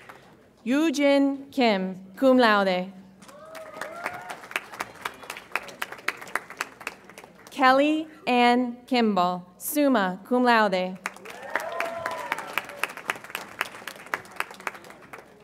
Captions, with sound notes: Yue-Gin Kim, cum laude. (audience applauds and cheers) Kelly Anne Kimball, summa cum laude. (audience applauds and cheers)